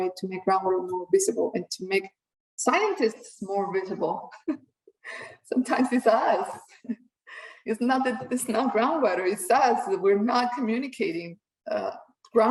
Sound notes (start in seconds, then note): 4.3 chuckles